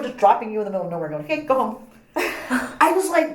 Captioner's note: laughs